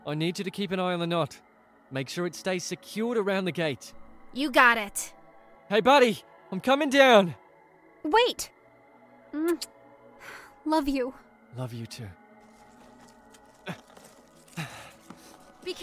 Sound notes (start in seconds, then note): 13.6 grunts